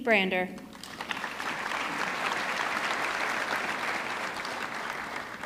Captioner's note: audience clapping